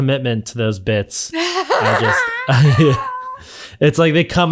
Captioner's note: laughing loudly